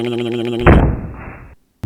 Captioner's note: thud